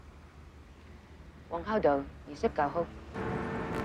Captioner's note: speaking chinese